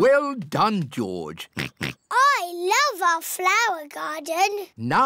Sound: oinks

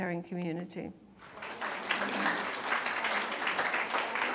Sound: applause

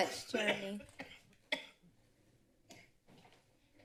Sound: coughs

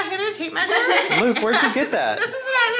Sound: everyone laughing

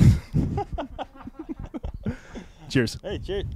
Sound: both laughing

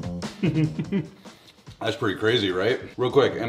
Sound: chuckles

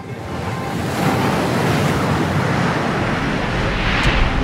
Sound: water splashing

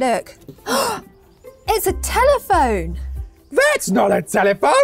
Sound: Bethany gasps loudly

